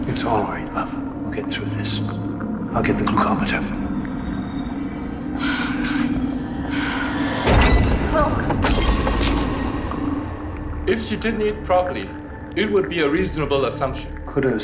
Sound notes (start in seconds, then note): 5.3 Paige breathing heavily; 7.6 head thuds; 8.6 glass breaks; 8.7 blood spatters